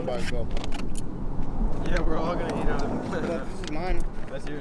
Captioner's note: laughs